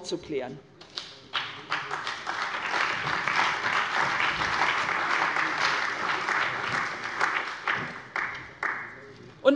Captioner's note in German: Beifall bei der CDU und dem BÜNDNIS 90/DIE GRÜNEN